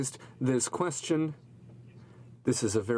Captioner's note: speaking french